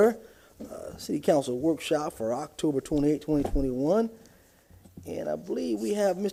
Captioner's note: gavel sounding